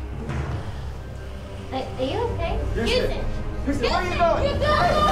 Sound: students screaming

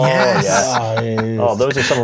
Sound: laughs

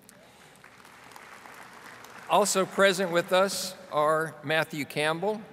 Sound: audience applauding

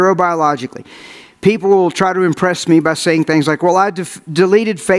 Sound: none

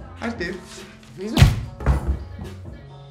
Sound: gunshot

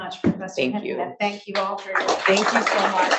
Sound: audience clapping

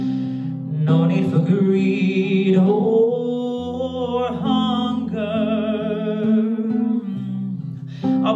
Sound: mmm

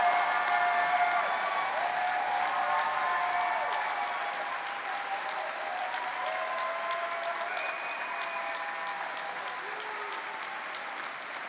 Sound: cheering; cheering and applause

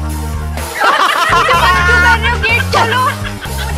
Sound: laughing

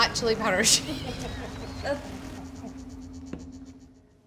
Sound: both laughing

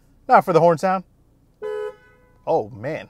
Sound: car horn beeps

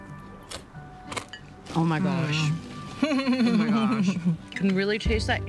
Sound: chuckling

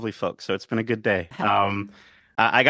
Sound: laughing

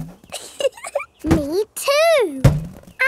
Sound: chuckles

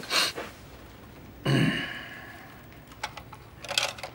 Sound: grunts

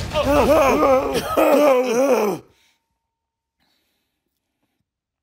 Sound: coughing

